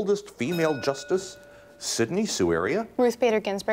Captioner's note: bell rings